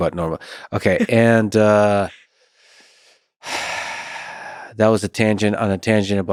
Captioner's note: sighs